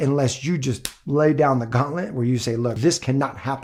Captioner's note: hand smacks